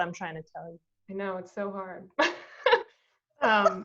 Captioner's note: laughs